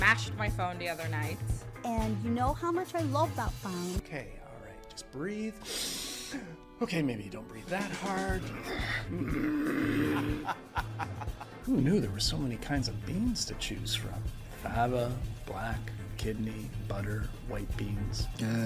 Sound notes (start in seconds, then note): 8.2 grumbles; 10.3 laughs